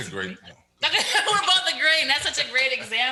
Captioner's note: laughs